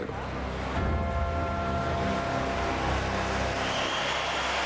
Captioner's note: crowd cheering